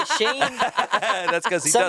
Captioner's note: everyone laughs